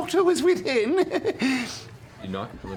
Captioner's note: nervous laugh